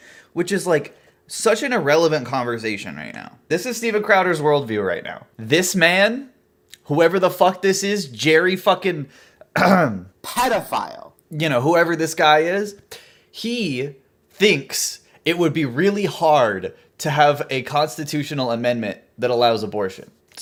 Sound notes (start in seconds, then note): 9.5 clears throat